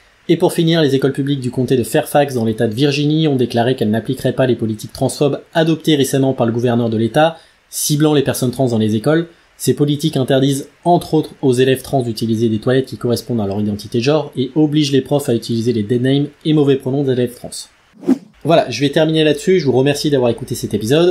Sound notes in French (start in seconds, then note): 17.9 Son de transition